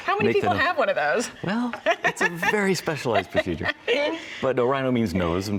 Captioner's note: laughs